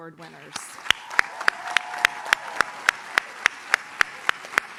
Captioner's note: audience cheers